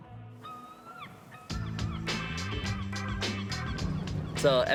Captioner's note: seagull squawks; funk music plays